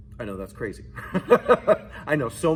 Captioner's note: both laughs